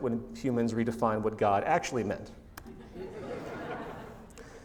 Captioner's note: laughter